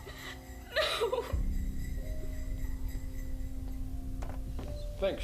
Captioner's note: sobbing